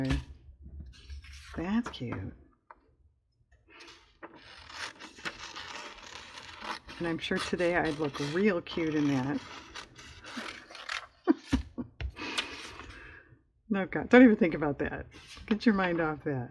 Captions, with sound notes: that's cute (sarcastically) and i'm sure today, i'd look real cute in that (laughs) no comment, don't even think about that, get your mind off that